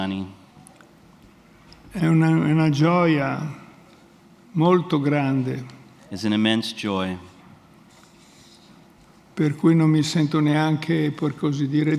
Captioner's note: speaks in Italian